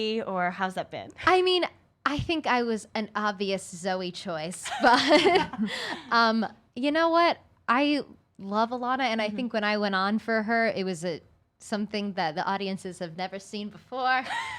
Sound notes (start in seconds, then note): 4.6 women laughing